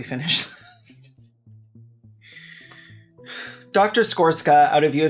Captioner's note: laughing at own joke for 3rd time in one video